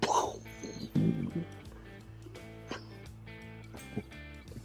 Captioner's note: chuckles